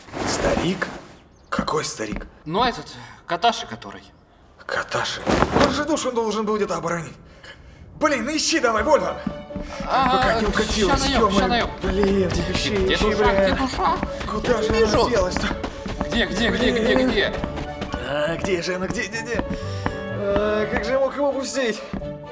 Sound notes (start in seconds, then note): 9.6 panic noises